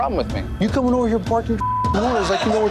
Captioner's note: beep